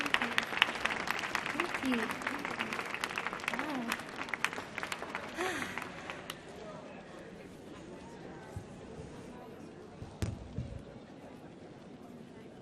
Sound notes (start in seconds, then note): 0.0 audience applauding; 4.6 audience chattering quietly